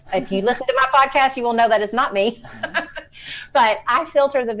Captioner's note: laughs